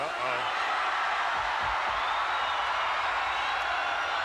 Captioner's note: audience cheers